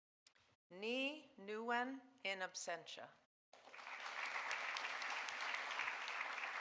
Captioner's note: audience applauding